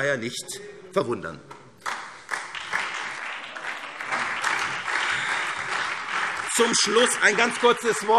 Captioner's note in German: Beifall SPD, CDU und BÜNDNIS 90/DIE GRÜNEN - Zurufe AfD